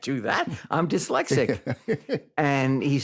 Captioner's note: laughs; chuckling